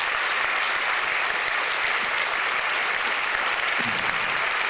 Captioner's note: audience applauding